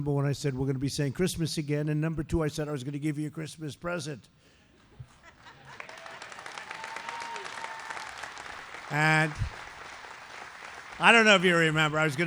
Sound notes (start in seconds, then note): 5.1 laughter and applause